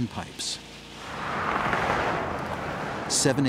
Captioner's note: traffic sounds